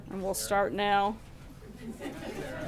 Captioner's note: laughter